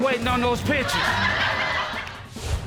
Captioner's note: laughter